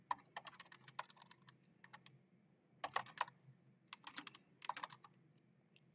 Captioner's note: keyboard clacking continues